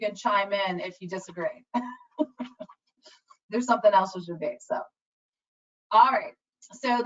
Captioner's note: laughs